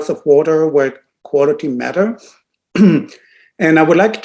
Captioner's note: clears throat